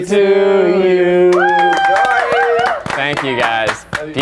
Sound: cheering

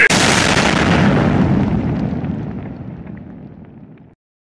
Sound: also explosion sound

